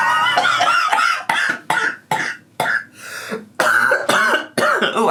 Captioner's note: laughs; coughs